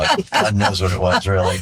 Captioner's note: laughing